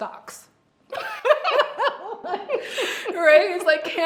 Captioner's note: both laugh